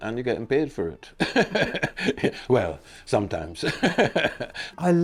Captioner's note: laughs